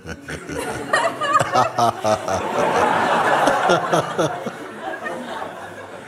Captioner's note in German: Lachen